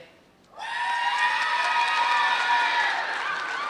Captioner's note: applause